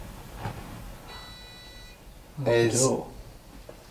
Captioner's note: beeping